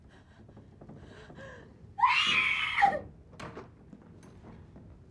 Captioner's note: cris fort